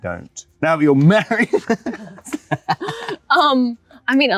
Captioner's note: laughs